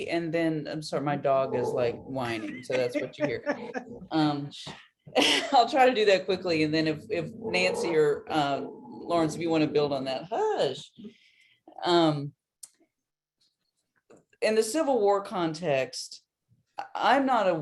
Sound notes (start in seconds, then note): 2.2 laughs